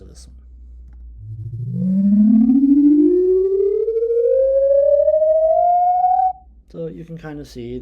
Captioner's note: humming sound ascending